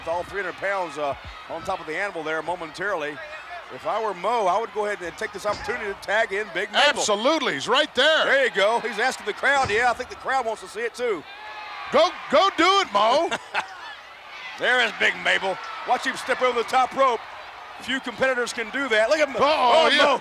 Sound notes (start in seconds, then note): 11.2 audience cheering; 12.4 chuckling